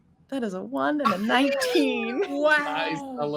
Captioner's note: all gasping